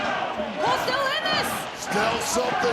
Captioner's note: audience cheering